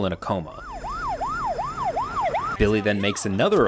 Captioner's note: siren wailing